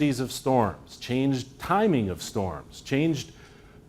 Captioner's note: none